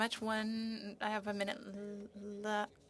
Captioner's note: speaking in French